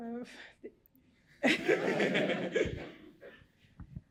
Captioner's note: laughter